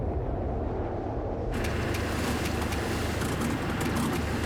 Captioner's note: engine sputtering